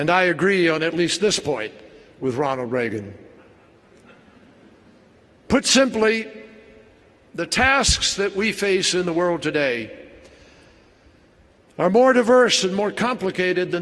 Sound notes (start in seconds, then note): 4.2 laughter